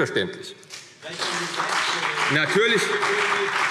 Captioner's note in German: Beifall CDU und BÜNDNIS 90/DIE GRÜNEN